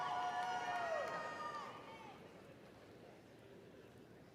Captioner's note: audience cheering